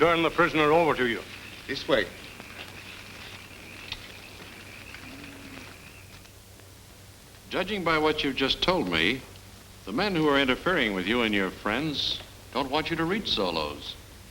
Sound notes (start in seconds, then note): none